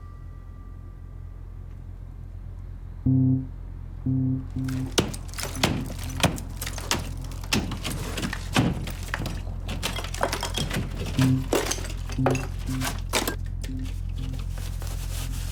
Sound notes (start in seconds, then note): 4.7 plaster clattering; 10.5 hammer thudding